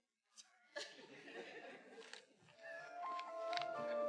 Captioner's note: faculty members laughing; gentle music